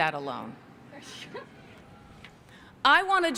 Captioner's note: chuckling